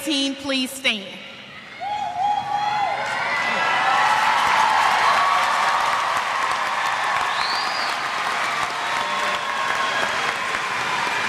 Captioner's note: cheers